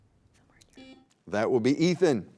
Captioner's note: buzzer beeping